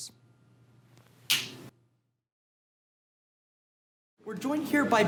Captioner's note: snap fingers